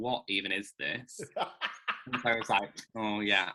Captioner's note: laughing